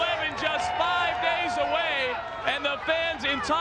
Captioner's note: audience cheers